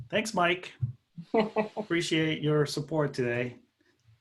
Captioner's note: laughter